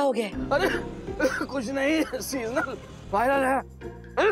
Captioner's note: coughing